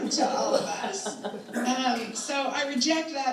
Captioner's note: all chuckling